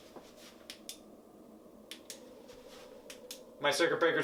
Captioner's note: flashlight clicking